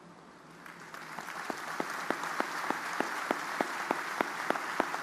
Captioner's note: audience applauding